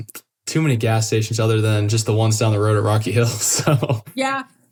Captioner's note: laugh